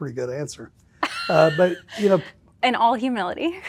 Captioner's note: laughing